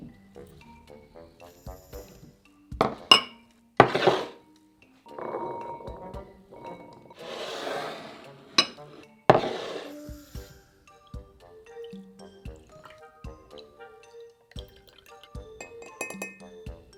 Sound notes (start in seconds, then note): 10.6 liquid pouring